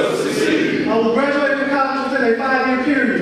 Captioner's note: audience speaking